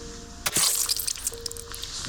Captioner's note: squelch